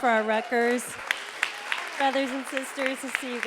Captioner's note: audience applauding